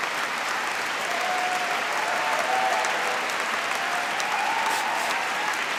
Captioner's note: applause; applause and cheering